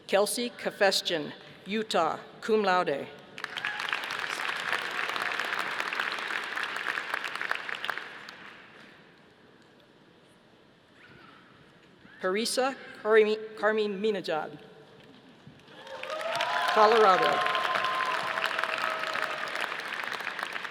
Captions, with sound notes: Kelsey Kafesjian, Utah, cum laude. (audience applauding) Parisa Kariminejad, Colorado. (audience applauding)